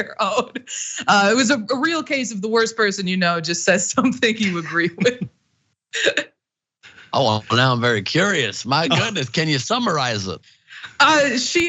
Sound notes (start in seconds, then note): 0.1 laugh; 6.9 laugh